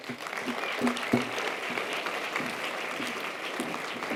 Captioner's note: audience applause